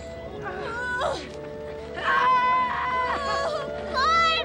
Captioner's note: Luke screams